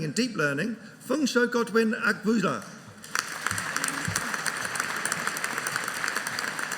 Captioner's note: audience applauding